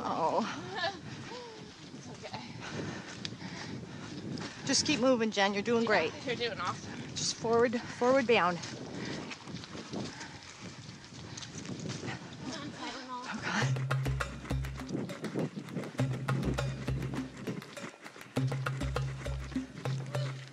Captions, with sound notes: Oh. It's okay. [Labored breathing] Just keep moving, Jen. You're doing great. -You're doing awesome. -Just forward... forward bound. [Competitors breathing heavily] -Come on Kara. -Oh God. [Spectral sounds weaving in and out]